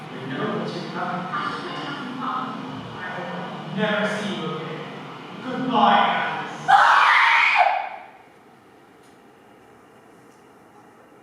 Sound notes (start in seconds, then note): 6.6 Alice screams